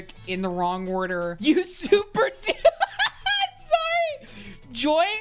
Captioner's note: laughing